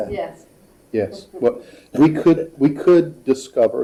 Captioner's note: laughing